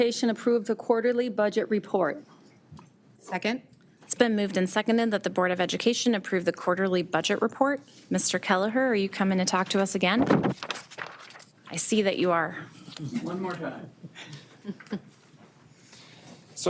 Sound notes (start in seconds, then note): 10.2 paper crinkles; 14.0 attendee laughing